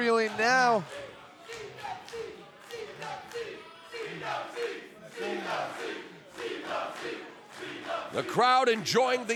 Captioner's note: applause